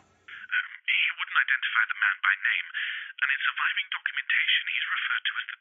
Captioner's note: on phone